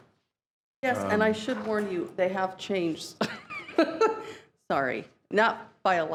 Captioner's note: laughs